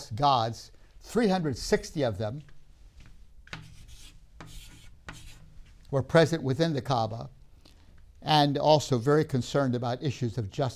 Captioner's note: chalk scraping